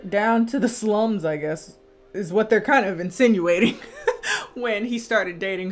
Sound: laughs

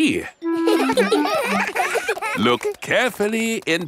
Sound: children laughing; laughs

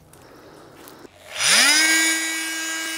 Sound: loud whirring

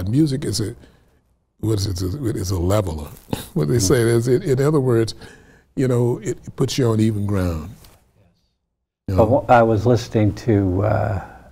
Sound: laughs

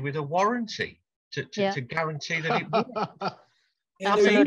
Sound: laughs

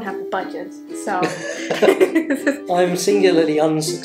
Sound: laughs

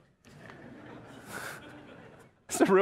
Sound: congregants laugh

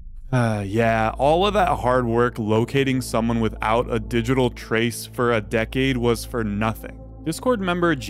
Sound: sigh

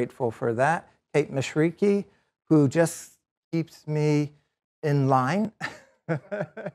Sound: laughs

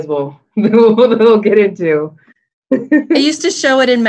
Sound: laughs

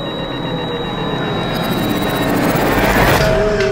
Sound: gasping

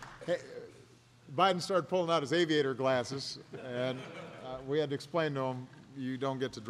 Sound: laughter

